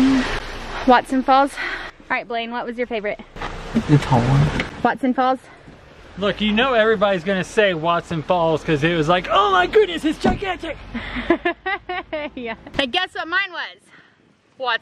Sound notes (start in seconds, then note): 10.9 laughing